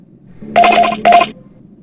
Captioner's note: voting sounds